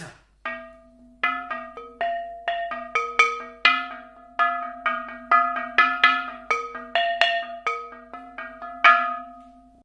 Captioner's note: hollow sounds of different pitches